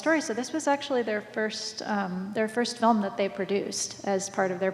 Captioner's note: none